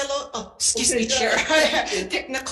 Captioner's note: laughing